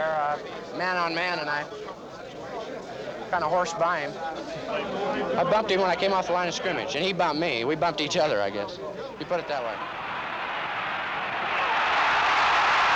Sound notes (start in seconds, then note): 9.2 crowd cheering